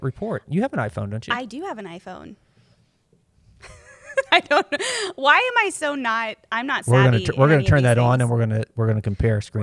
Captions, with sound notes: You have an iPhone, don't you? -I do have an iPhone. [laughs] I don't know. Why am I so not-- I'm not savvy in any of these things. -We're going to turn that on and we're going to compare screen time.